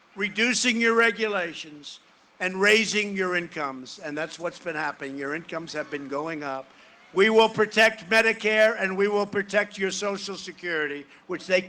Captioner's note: cheering and applause